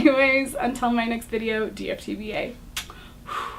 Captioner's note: blows kiss